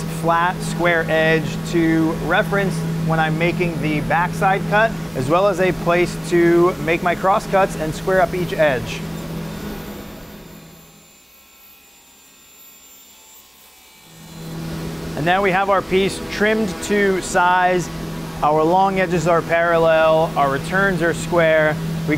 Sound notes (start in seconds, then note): 11.1 saw buzzing